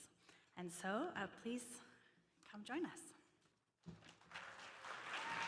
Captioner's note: applause